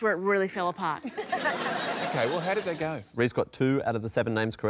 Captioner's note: laughter